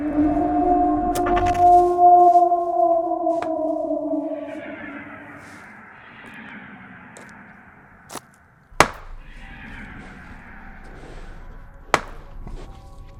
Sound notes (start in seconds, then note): 0.2 eerie distant howl; 8.8 tree knocking